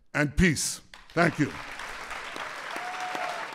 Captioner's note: applause